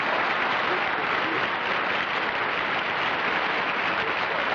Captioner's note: applause